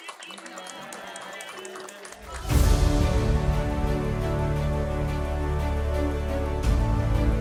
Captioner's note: applause